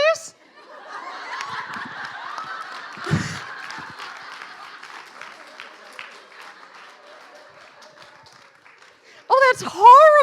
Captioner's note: laughing